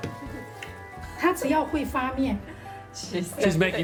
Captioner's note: speaking local language